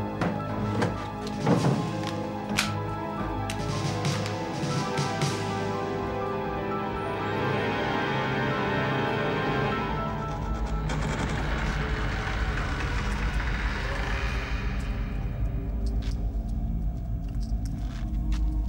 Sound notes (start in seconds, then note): 2.2 gun cocking; 6.9 soft intense music; 10.6 door creaking; 14.6 gentle tense orchestral music